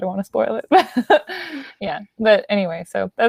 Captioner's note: chuckles